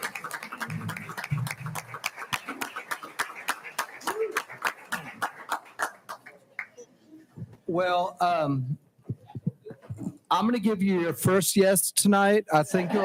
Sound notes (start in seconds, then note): 5.8 people chattering